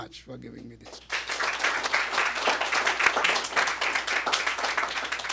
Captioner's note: applause